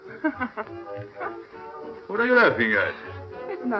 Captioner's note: laughs